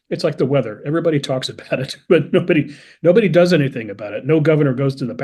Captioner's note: laugh